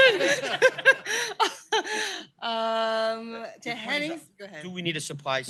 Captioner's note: laughter